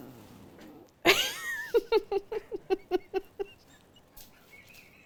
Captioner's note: laughs